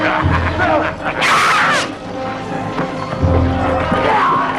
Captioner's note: child shouting